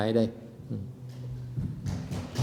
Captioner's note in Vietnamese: applause